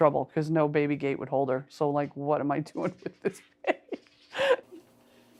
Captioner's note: laughs